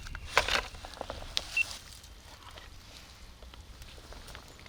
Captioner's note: machine beeping